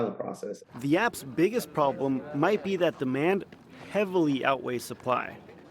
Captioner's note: voice-over